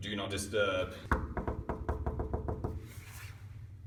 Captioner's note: knocks